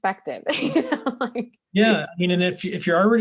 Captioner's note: laughing